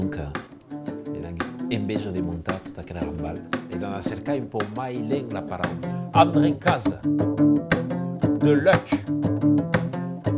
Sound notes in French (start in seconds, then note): 6.2 Chant